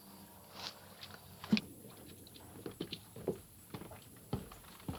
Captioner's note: footsteps shuffling